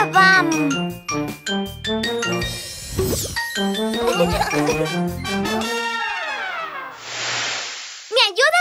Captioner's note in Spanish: Música Alegre; Risas